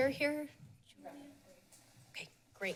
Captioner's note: background chatter